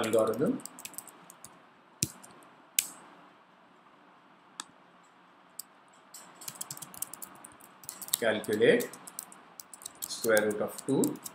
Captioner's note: click